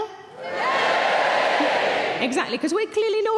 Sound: audience members cheering

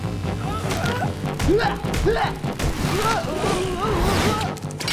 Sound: grunting

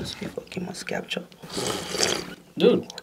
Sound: slurppp

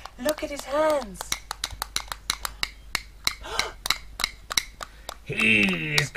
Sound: claws clacking

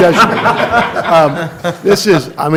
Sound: laughter

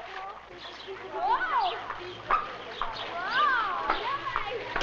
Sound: birds chirping

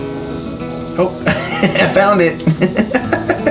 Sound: laughs

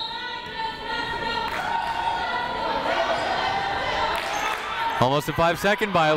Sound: whistle tweeting; people chanting in the crowd

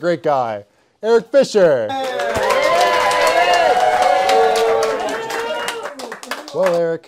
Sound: cheers, mixed boos

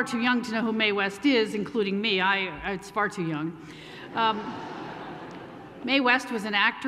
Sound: laughter

